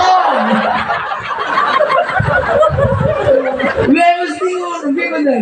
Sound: laughs

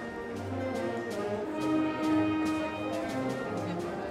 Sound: indistinct chatters

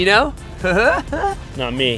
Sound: laughs

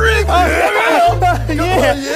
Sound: Cletus laughing nervously

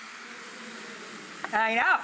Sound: audience oohing

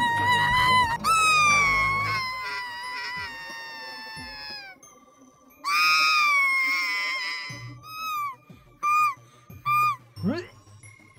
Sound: crying

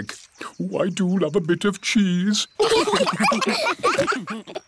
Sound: laughter

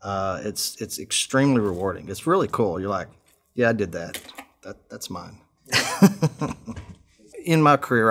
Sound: laughs

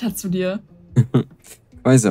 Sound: giggles

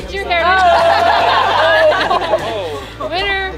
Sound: laughter

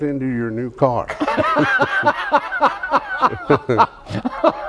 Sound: laughs

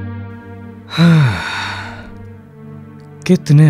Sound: sighs

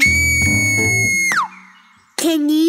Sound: whistles loudly

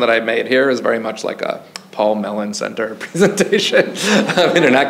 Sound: chuckles; audience chuckles

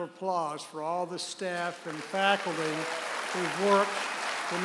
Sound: audience applauds

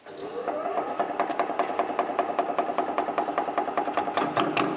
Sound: the machine makes a regular tapping sound

